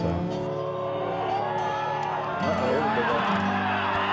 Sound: cheering

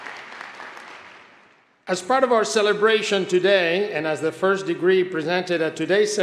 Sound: applause

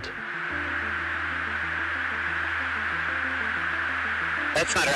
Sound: static hissing

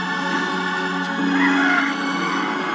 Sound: wheezing

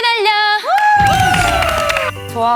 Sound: applaud

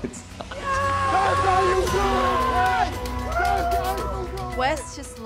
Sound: yelling and cheering

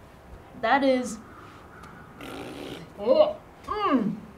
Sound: blows a raspberry

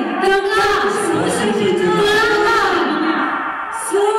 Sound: yelling in Russian and Kazakh

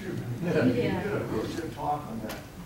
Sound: audience laughing

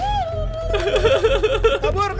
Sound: laugh

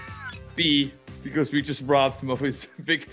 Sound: laugh

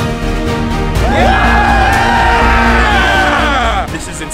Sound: intense music; crowd cheering

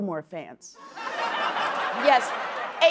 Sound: laughter

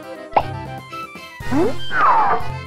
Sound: popping sound effect; various cartoon sound effects

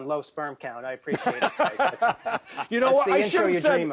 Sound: hosts laugh

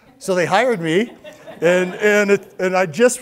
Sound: crowd laughs

